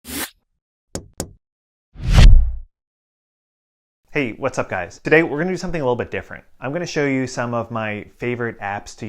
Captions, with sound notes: (logo whooshing) (play button tapping) - Hey, what's up guys? Today, we're gonna do something a little bit different. I'm gonna show you some of my favorite apps